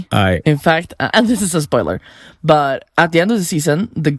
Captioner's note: excitedly